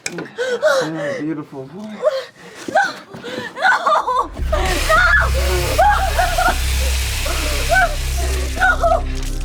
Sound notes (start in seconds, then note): 3.5 cries